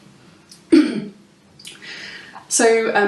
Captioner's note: clears throat